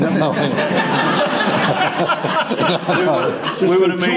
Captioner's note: laughter